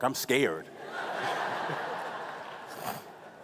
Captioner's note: laughing